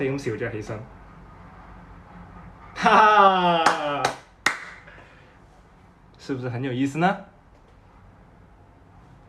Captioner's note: back to mandarin